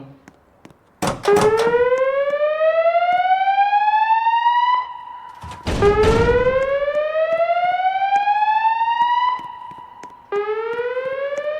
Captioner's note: fire alarms sounding slow whoop tone